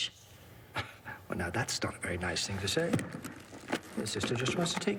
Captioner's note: scoffs